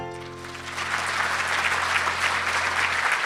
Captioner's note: applauding